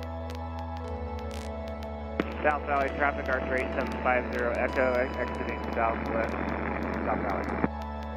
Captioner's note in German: Flughafen Radio Anrufe